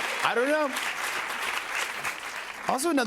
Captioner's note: applause